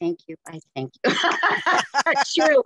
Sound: laughter

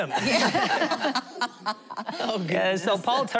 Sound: laughter

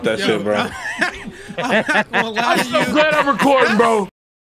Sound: laughs

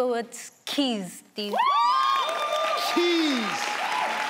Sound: crowd clapping; people shouting; crowd cheering

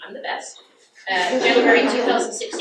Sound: audience laughs

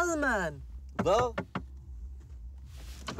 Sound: knocking on window

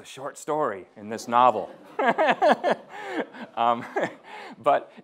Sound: laughing

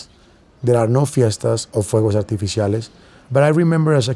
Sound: spanish

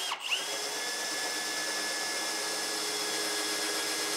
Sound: drilling wood

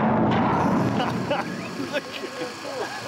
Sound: laughs

